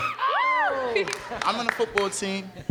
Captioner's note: girl screams; cheers